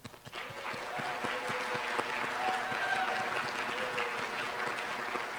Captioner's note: applause